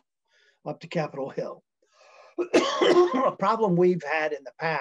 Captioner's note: coughing